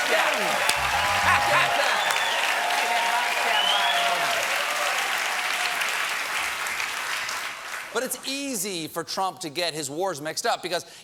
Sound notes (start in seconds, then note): 0.0 cheers and applause